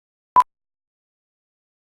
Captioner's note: beep